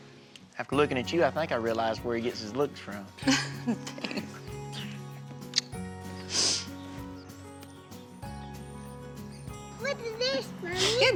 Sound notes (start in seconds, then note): 3.2 giggles; 5.5 smooch